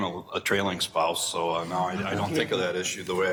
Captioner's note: regents chuckle